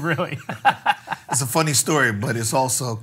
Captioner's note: laughs